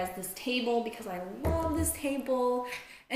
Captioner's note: knocks on table